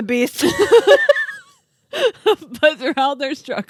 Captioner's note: laughing